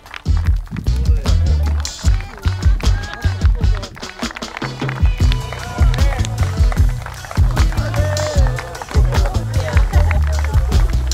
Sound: clapping

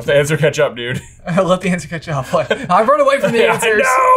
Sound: laughs

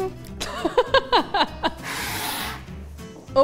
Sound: narrator laughs

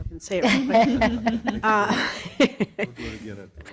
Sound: group chuckles

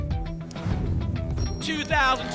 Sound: whoosh

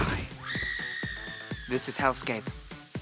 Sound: screams

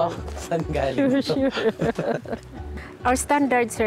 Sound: softly laughs

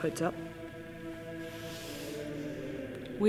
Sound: chants

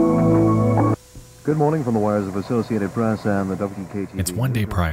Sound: news reporter speaking

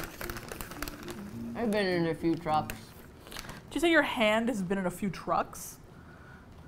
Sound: mouth full

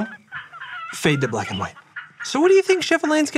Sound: rubber chickens squeaks

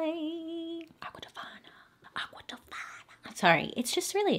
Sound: whispers

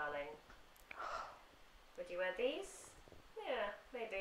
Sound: sighs again

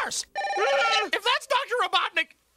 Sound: phone ringing; Grounder yells

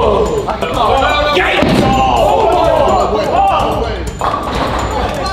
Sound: lads Shouting

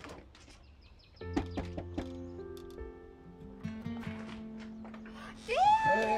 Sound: pleasant piano music; man knocking

